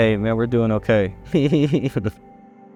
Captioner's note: laughs